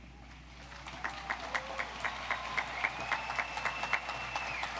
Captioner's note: audience applauds